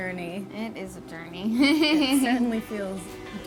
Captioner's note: laughs